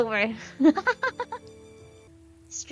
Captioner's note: laughs